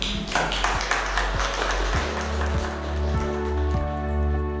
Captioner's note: panel clapping; soft music